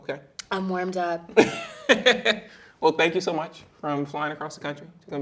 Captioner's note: chuckling